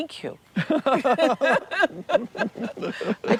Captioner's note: both laugh